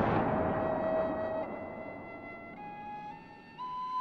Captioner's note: none